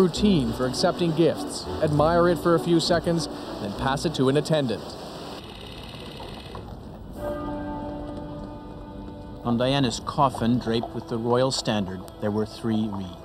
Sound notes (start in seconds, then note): 5.0 film reel whirrs; 7.2 church bells ring